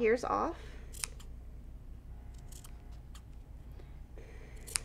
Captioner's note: scissors snip